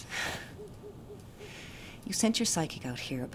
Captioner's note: sighing